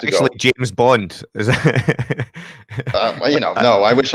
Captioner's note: laughs